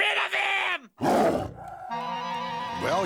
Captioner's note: growl